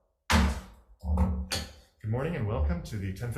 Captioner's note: gavel thumps